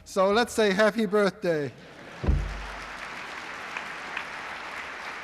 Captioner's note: applause